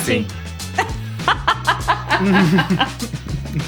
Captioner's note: laughing